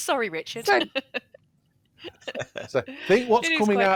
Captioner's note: laughter